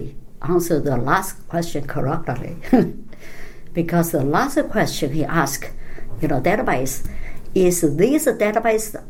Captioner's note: laughs